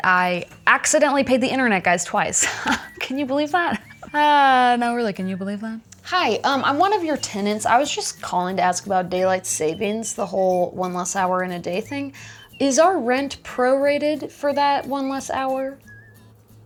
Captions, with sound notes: I accidentally paid the internet guys twice. (laughter) Can you believe that? No, really. Can you believe that? Hi, I'm one of your tenants. I was just calling to ask about daylight savings. The whole one less hour in a day thing. Is our rent prorated for that one less hour?